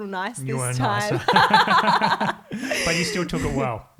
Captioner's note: all laughing